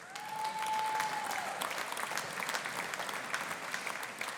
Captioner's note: audience applauding